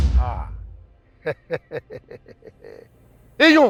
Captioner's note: laughs